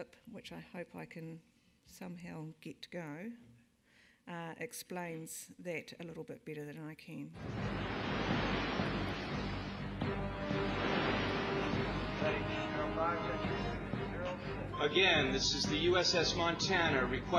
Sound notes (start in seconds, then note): 7.4 water splashing; 10.3 dramatic music